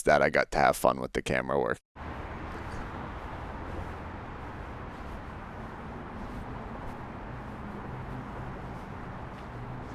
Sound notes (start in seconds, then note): 2.0 distant traffic whooshing